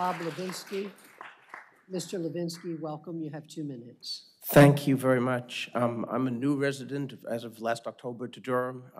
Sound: applause

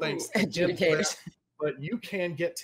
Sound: chuckling

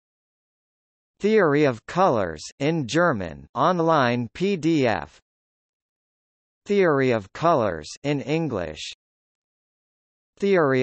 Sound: in German

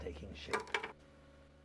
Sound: pen falls to the table

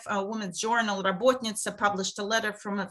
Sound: speaking foreign language

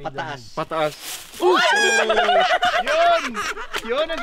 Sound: laughter

